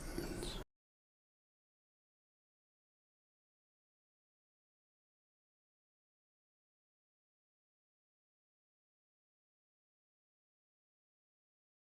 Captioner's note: silence